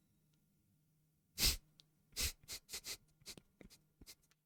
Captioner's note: painful nose breathing